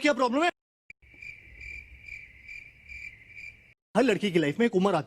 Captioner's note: crickets chirping